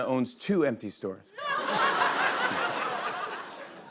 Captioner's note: laughter